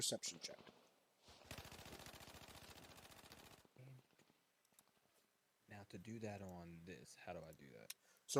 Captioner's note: gunfire continues